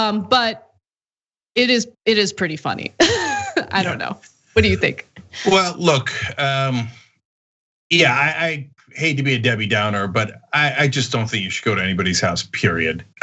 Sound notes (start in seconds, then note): 5.2 laugh